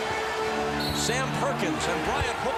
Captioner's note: whistle blows